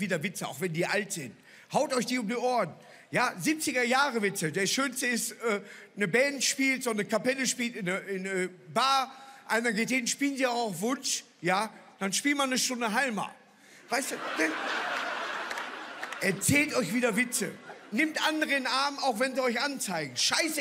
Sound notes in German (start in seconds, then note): 14.0 Lachen